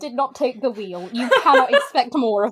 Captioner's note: laughs